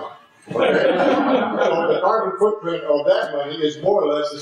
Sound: laugh

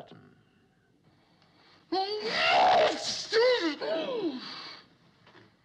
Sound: violent Sneeze

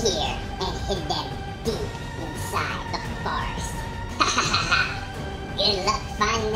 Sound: evil laugh

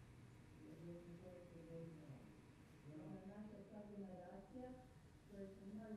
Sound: speaking in a foreign language

